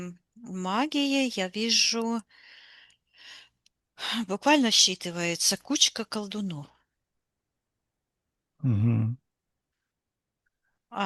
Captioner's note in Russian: тяжело вздыхает